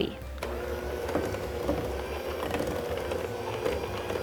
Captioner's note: mixer mixing